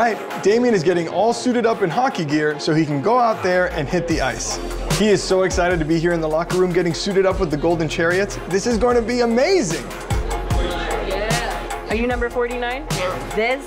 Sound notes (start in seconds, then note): none